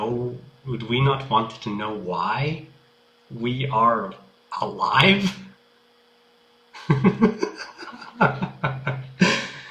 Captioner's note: laughs